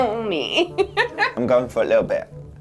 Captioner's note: laughing